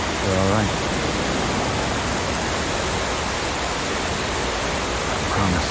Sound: water falling

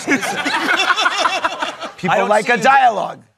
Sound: laughter

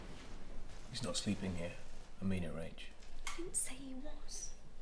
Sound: quietly

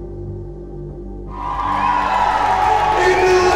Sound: crowd cheers

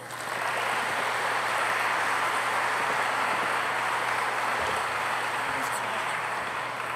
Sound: applause

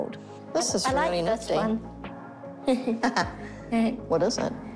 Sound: both chuckle

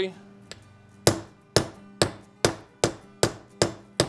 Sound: hammer tapping

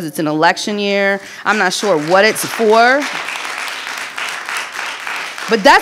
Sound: audience applauding

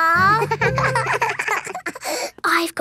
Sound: both giggling

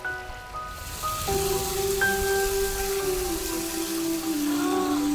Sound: water rushing; gasps

